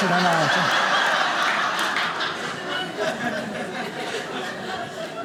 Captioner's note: audience laughing